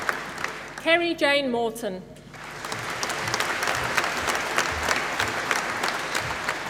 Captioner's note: applause